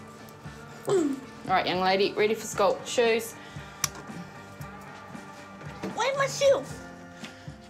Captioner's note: clears throat